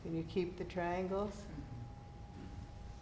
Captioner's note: none